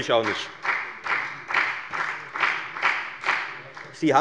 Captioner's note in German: Beifall bei der FDP